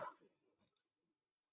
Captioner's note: laughing